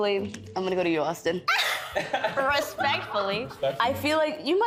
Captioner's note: all laughing